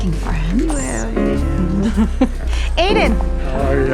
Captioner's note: chuckles